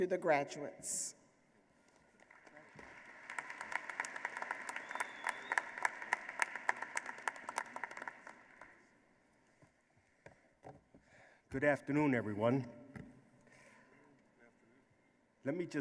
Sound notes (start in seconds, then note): 2.1 applause